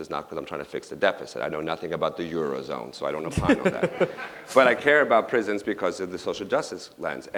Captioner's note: laughter